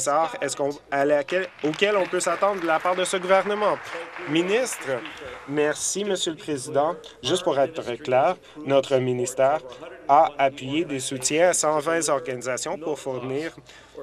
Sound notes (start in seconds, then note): 4.4 applause